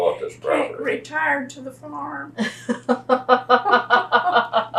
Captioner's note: laughs